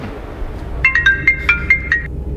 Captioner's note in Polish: odgłos dzwonka w telefonie